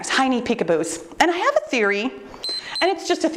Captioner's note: timer beeps